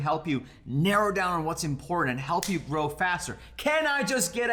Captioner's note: snaps fingers